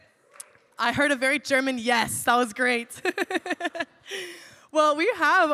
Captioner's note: laughs